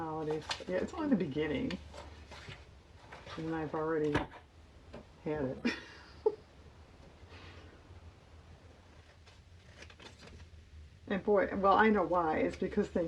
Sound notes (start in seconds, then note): 9.4 laughs